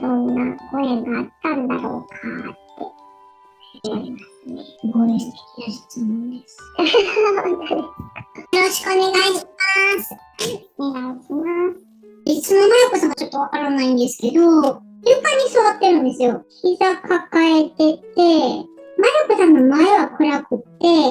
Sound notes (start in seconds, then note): 6.7 laughs